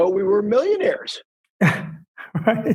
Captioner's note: laughs